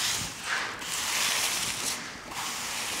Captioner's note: scraping noises